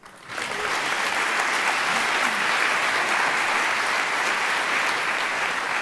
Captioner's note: applause